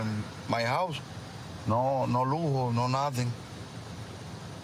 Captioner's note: speaking spanish